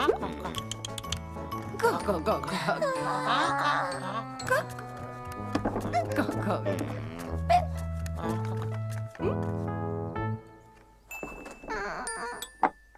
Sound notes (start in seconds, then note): 0.5 clicks tongue; 2.8 yawns; 11.7 moans